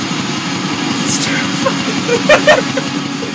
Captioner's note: goblin laughter